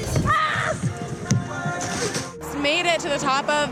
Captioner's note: screams